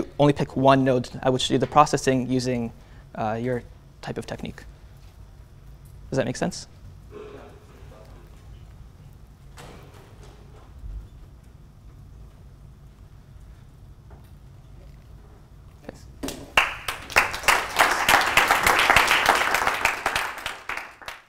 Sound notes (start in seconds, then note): 16.5 applause